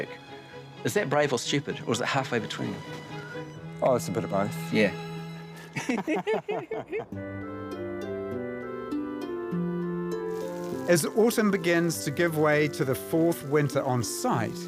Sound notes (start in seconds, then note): 5.6 both laughing